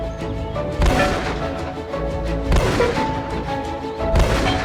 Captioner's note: lively music; gun bangs